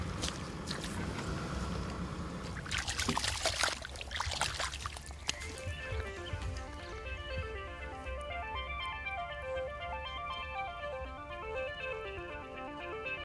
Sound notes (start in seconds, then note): 0.2 footsteps splashing; 2.3 water rustling; 6.6 phone chiming